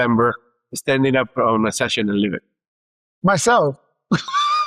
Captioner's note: laughs